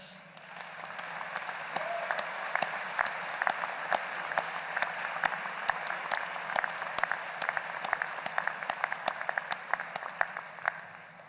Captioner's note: applause